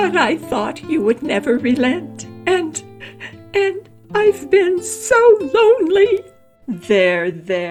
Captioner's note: sobbing